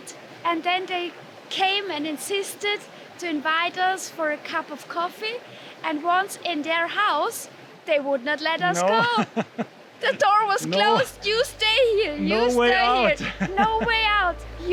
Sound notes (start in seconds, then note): 8.7 laughing; 12.8 laughing